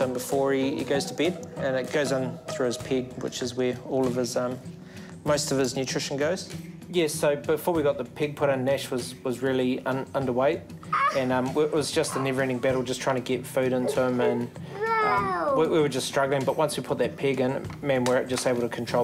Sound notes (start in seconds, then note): 15.8 fusses